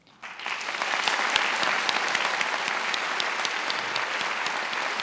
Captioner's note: attendees applauding